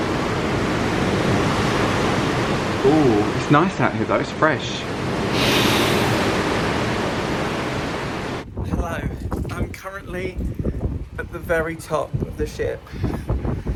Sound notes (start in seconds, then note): 5.3 inhales deeply; 7.5 exhales